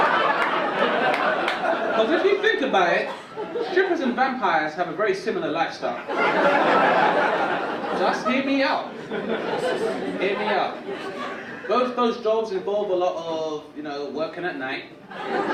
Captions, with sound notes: 'Cause if you think about it, strippers and vampires have a very similar lifestyle. (audience laugh) Just hear me out. Hear me out. Both those jobs involve a lot of working at night.